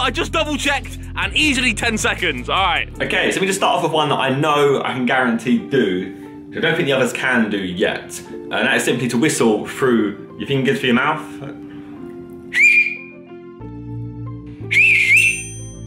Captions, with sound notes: I just double checked an easily 10 seconds alright. - Okay, so we just start off with one that I know I can guarantee to do. I don't think the others can do yet. And that simply to whistle through your fingers through your mouth. (whistles)